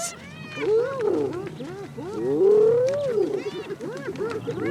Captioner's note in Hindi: लकड़बग्घों के भोंकने की आवाज़